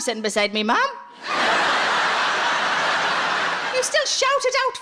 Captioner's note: audience laughs